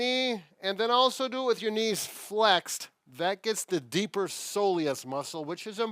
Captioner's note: none